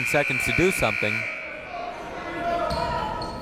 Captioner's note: buzzer ringing; people shouting in the crowd